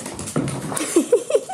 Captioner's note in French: rires